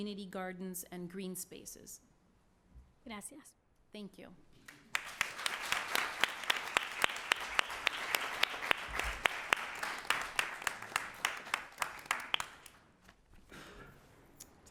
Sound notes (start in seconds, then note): 3.5 speaking spanish; 6.0 applause